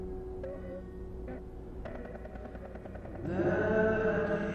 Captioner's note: helicopter whirring